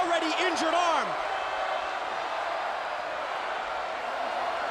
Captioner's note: crowd cheering